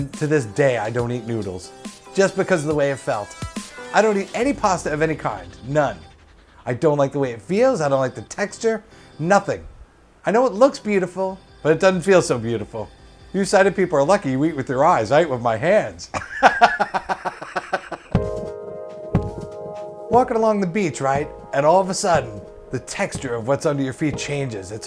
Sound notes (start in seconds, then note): 16.1 laughs; 17.3 music fades out